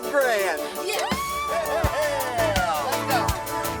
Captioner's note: laughs; Farrah squeals